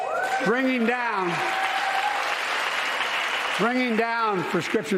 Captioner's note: cheers and applause